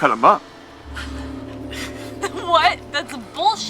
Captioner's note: laughs